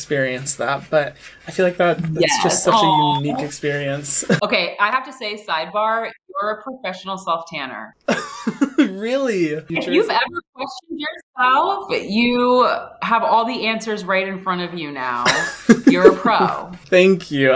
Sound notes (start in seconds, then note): 8.1 laughs